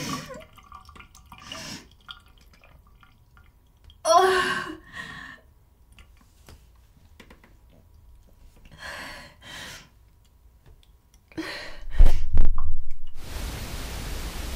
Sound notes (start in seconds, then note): 0.5 person breathing